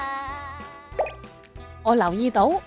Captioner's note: popping sound